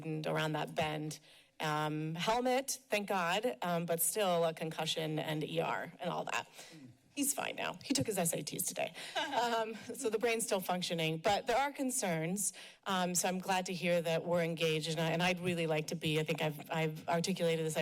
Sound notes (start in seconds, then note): 9.1 laughs